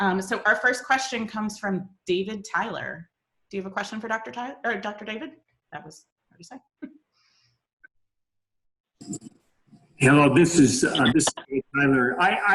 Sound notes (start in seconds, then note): 7.2 speaking faintly